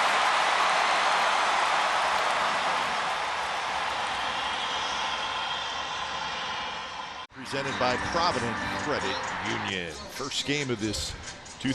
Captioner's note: cheers